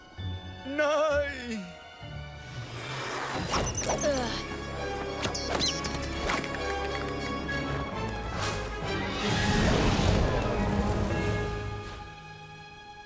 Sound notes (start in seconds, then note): 5.2 chirping